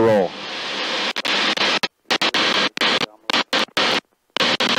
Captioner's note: radio static